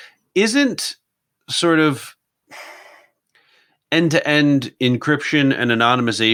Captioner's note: sighs deeply